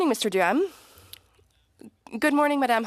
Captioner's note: speaking French